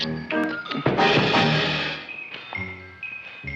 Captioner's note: Seymour crashing; placid music